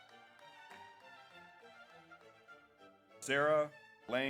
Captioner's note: audience applauds